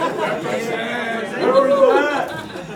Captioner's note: laughs